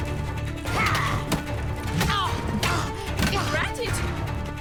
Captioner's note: both grunting, groaning